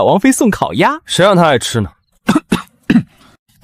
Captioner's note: cough cough